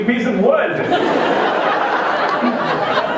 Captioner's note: laughter